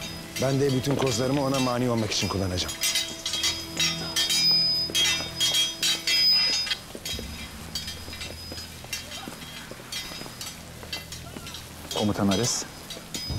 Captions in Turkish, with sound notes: Ben de bütün kozlarımı ona mani olmak için kullanacağım. (Kılıç sesleri) (Bağırma sesleri) Komutan Ares.